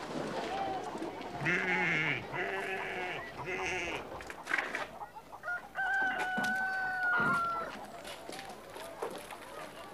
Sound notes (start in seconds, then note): 5.5 rooster crows